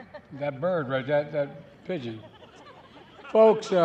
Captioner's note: laughter